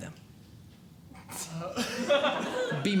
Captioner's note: audience Laughing